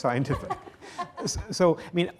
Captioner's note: laughs